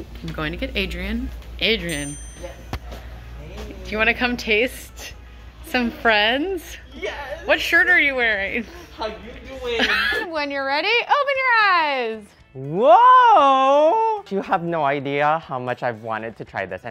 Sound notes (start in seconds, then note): 9.7 laughs